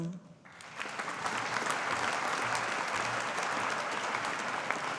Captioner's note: audience applauding